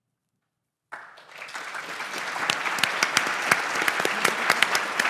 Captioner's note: applause